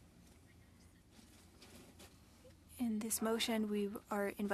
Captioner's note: speaking French